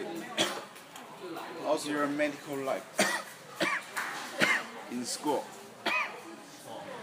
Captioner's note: caugh